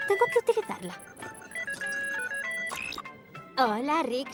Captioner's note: phone ringing